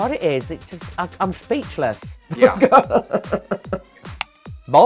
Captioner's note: chuckles